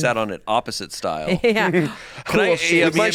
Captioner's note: laughs